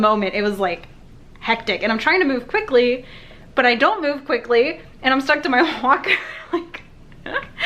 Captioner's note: laughing